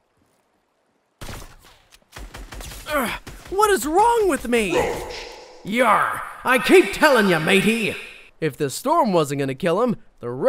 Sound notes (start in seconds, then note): 2.1 gunfire